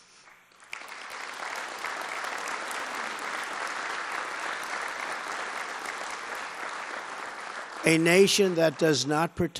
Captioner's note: applause